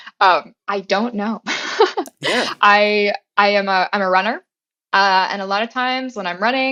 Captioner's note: laugh